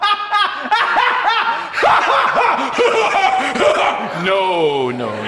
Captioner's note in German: lacht wahnsinnig